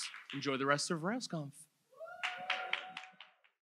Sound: audience cheers

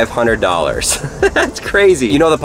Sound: man chuckle

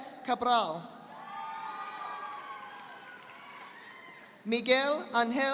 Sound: audience applauding

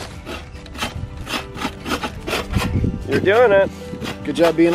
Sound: scraping

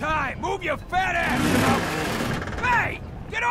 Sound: creaking Metal

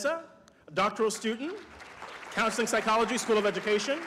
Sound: applause

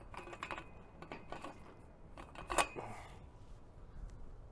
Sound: metal clicks

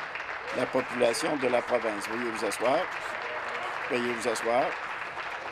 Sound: applause

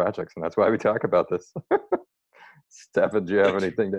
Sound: laughs

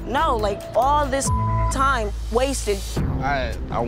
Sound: beep

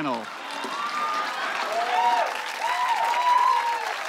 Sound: cheers and applause

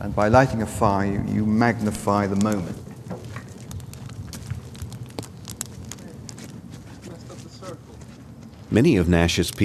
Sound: fire crackling

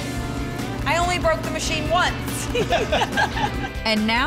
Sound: laughing

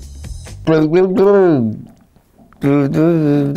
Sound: humming

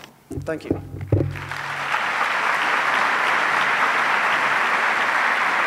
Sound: audience applauds

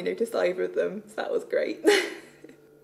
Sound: laughs

